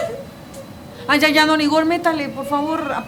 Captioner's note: ana cries